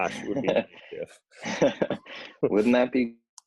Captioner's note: laughs